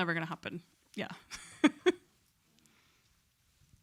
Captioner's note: chuckles